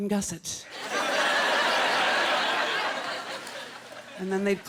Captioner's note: laughter